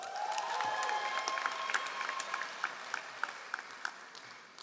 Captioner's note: all applauding